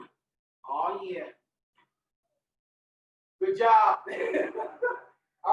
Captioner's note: laughing